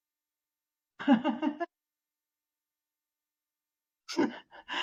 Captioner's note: laughing